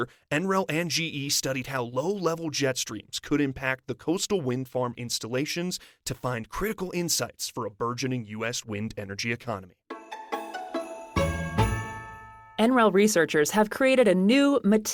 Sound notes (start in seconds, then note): 12.4 transitional music fades in; 12.4 fades out